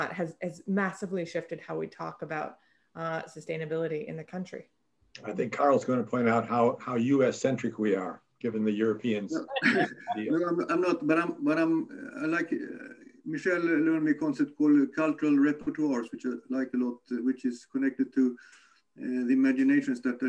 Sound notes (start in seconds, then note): 9.3 laughs